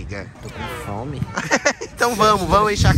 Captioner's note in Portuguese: risos